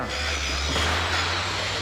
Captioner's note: construction tools whirring